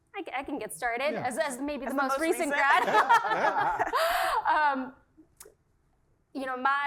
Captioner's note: laugh